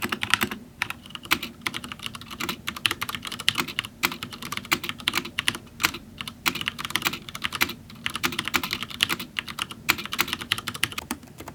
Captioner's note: typing sounds